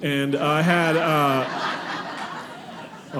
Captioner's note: audience laughing